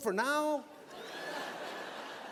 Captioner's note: laughter